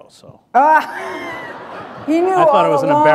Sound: laughter

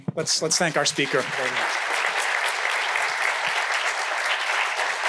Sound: audience applauding

